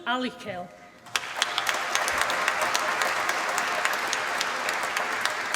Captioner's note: applause